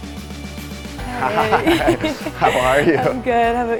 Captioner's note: laughs